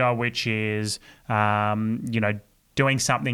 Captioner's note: none